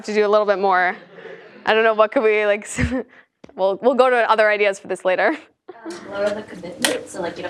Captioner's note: laugh